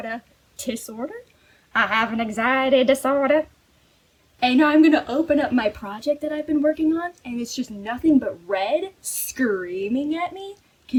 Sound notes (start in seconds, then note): 1.3 southern accent intensifies